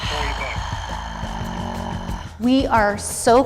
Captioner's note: groaning